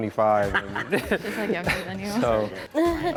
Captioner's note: all laughing